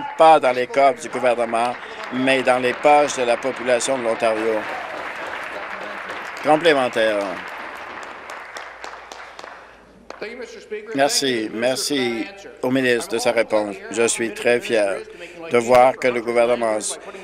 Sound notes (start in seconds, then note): 5.7 some Applause; 6.4 cheering